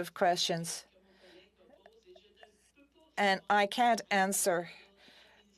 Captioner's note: speaking French